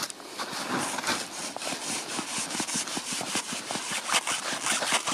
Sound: string rasping

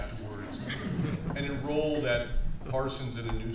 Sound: all laughs

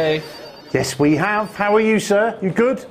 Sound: people chattering

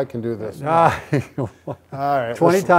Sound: laughs

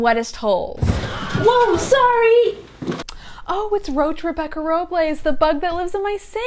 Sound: crash

